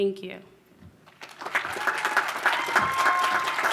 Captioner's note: applause